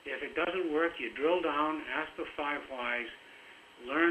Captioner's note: broken audio